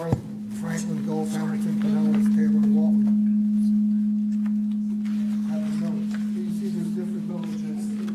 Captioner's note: microphone feedback